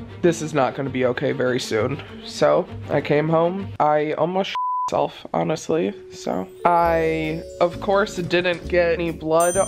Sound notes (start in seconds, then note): 4.6 beeps; 9.4 check dings